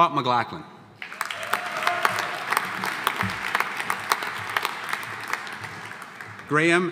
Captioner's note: audience applauding; audience cheering